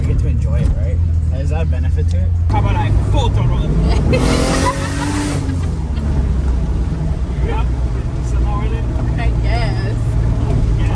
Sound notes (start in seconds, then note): 3.8 laughs; 4.8 car racing